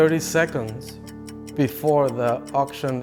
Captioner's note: clock ticking